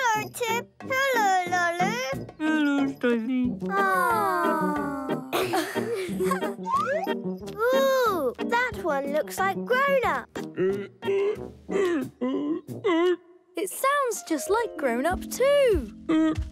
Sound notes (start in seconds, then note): 4.8 laughing; 10.6 grumbling